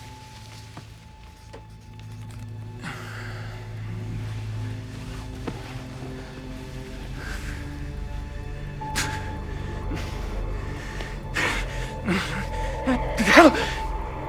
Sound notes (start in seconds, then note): 2.1 sighing; 10.5 gasping